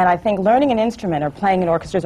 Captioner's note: none